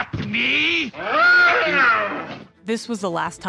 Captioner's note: Frankenstein yelling